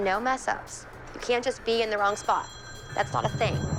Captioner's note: phone ringing